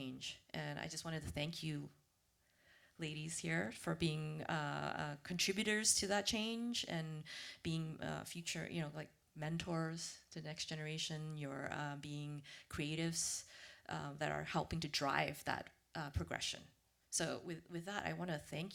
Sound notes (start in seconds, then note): none